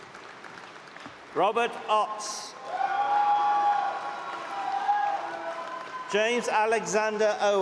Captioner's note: cheering